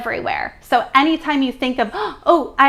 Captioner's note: gasps